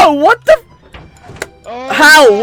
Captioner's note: claps for some reason